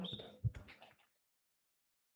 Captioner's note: audience clapping